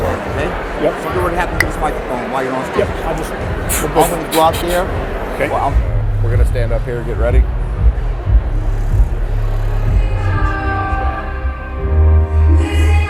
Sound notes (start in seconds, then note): 3.7 laser sounds; 10.0 pop song